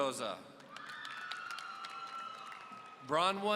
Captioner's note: audience cheering